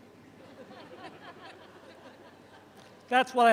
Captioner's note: audience chuckles